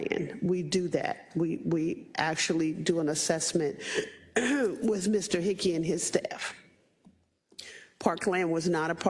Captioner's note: cough